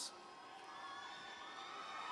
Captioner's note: cheers